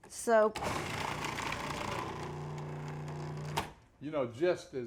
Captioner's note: food processor whirring